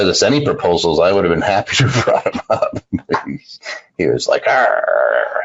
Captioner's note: laughs